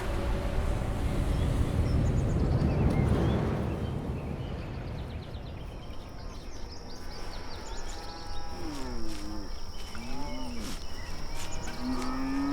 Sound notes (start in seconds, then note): 0.1 light rumbling; 2.4 birds chirping; 7.4 cows moo